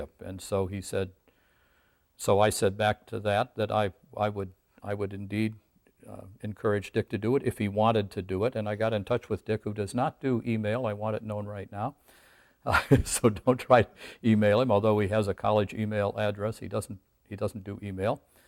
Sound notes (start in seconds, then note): 12.7 laughs